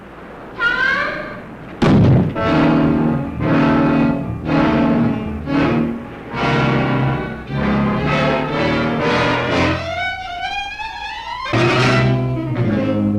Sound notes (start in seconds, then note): 1.4 door slamming; 2.4 suspenseful music; 7.3 suspenseful music